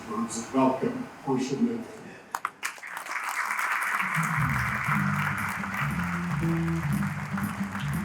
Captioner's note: applause